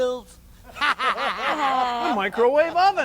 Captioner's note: laughing